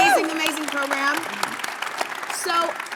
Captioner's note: audience cheering and clapping